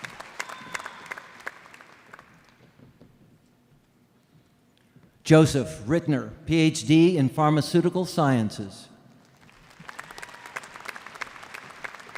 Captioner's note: applause